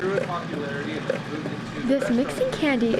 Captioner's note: candy mixing, indistinct chatter